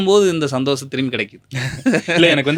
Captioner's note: laughs